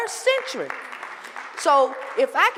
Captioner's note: applause